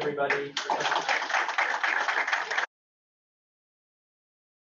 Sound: all clapping

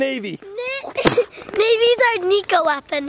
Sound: kicking noises

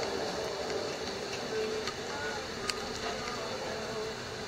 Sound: oil sizzling

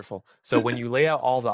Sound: laughing

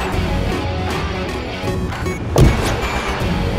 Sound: car door opens

